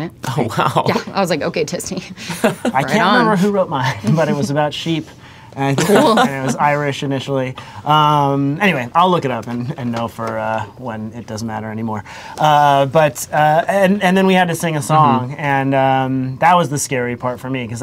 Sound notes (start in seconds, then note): 2.3 laughter